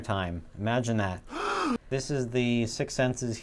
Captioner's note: gasp